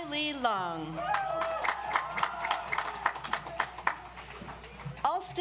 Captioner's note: audience applauds